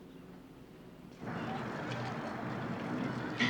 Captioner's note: children playing